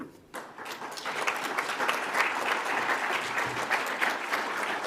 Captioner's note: audience applauds